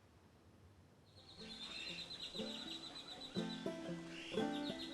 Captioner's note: birdsong